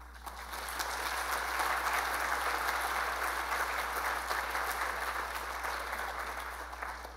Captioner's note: applause